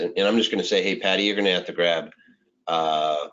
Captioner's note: speaking in foreign language